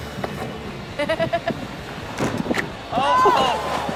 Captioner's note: laughs